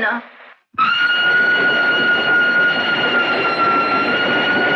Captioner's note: Train Horn Sounding